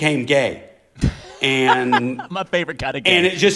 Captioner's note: laughter